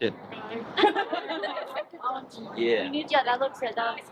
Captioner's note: group laughs